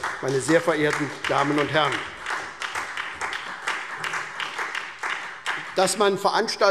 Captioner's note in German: Beifall SPD